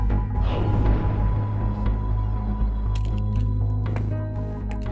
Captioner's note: gun shots